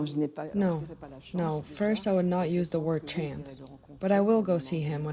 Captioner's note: through translator